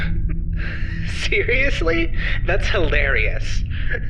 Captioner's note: begins laughing